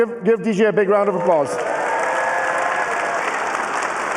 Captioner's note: cheering and applause